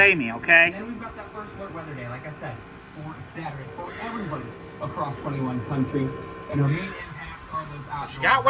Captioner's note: TV continues to play in background